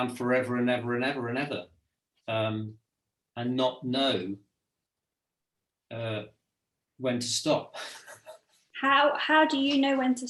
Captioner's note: chuckles